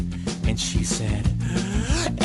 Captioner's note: BIG INHALe